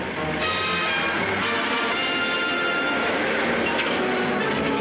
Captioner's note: engine roaring; upbeat music